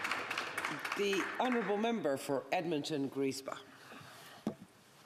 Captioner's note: applause